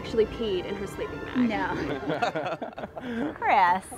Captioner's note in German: lacht